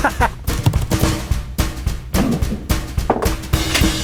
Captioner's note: laughing; keyboard clacking; upbeat music; cooking equipment thudding; cooking equipment clicking